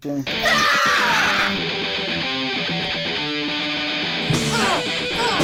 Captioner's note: Misty and Kristy yell; loud rock music; both grunting; loud rock music